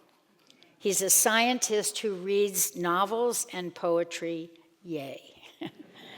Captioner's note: laughs